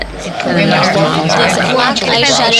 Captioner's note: chatter